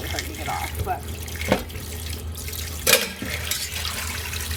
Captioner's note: water pouring